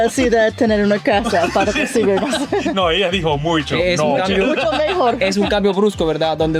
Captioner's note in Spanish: risas; risas